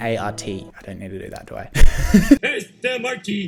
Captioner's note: laughs